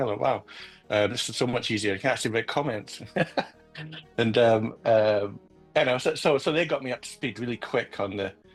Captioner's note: laughs